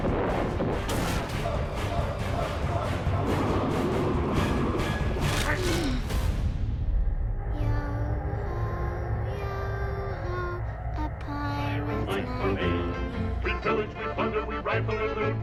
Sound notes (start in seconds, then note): 5.4 groaning